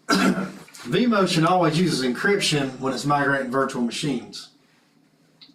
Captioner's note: cough